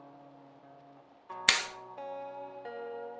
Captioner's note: clacker smacks